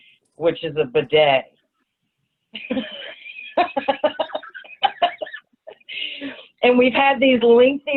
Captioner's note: laughter